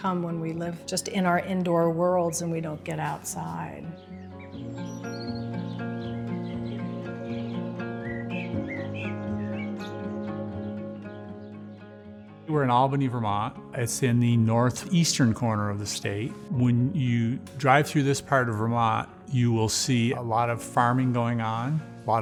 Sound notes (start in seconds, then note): 4.3 birds chirping; 4.3 gentle music